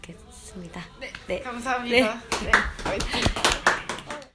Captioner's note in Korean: 짝짝짝